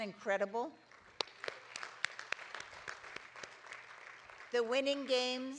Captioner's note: audience applauding